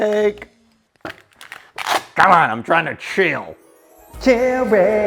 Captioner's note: tape rips; angelic music